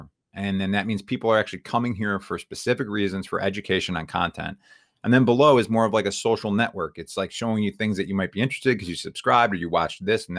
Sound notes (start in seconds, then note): none